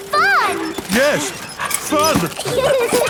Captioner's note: straining; peppa and george laughing